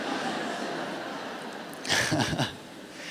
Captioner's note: laughter